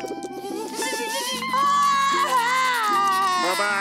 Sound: crying

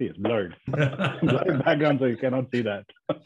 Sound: everyone laughing

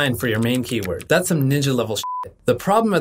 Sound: beep

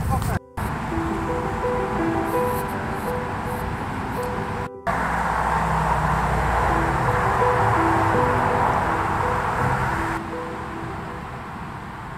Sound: road noise

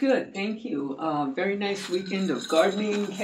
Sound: ice rattling in glass

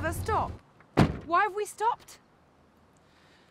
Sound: car door slams shut

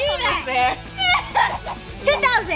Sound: laughing

